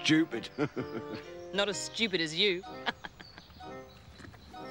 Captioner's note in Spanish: risas; risas